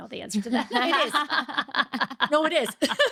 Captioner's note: laughing